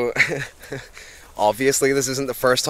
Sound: tourist chuckles

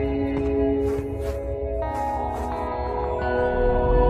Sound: flies buzzing

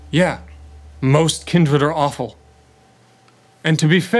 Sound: none

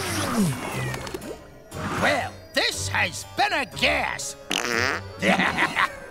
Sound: farting, laughing

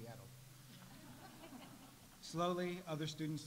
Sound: audience laughs

